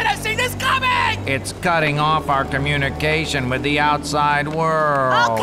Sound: whines

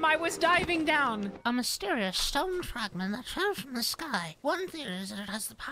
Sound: silly Yet Studious Voice

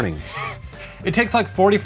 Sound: wheezes

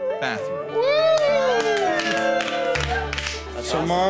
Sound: cheers

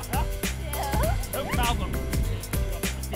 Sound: laughter

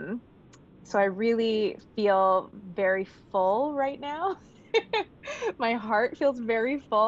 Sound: laughs

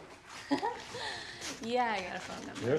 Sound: laughs

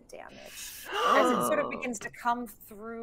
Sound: team gasping

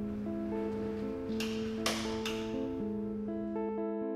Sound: clicking of light switch echoes

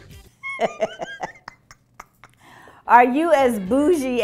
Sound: Kim laughing

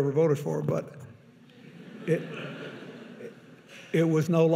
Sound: audience laughing

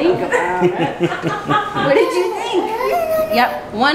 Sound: laughing

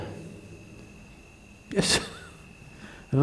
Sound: laughs

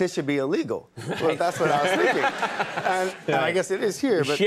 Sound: Conan laughing

